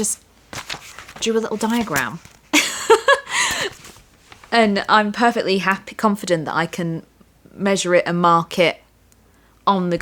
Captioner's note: laughter